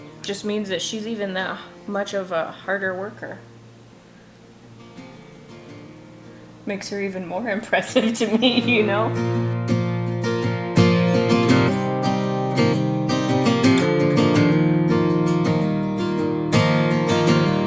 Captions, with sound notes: It just means that she's even that much of a harder worker. Makes her even more impressive to me, you know? (laughing) (bright music)